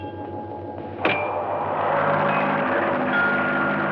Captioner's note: wind whooshing